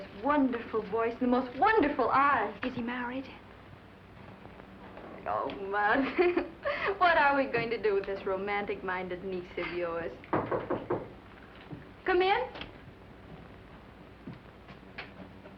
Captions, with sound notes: Is he married? Oh, Mother, what are we going to do with this romantic-minded niece of yours? [knocking] Come in!